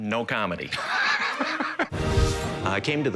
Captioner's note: laughter